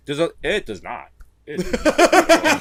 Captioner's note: laughs